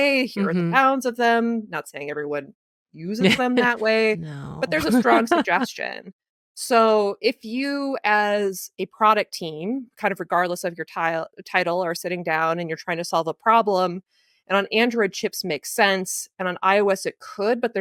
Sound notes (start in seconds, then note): 4.6 giggles